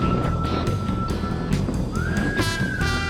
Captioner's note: windy